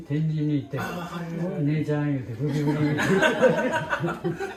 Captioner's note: laugh